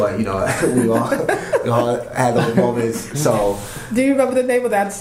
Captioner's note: laughter